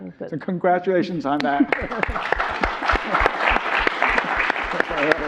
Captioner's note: all clapping